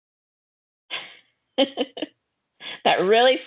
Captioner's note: chuckling